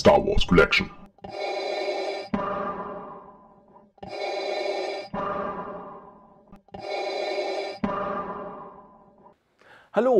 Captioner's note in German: Darth Vader Atemgeräusche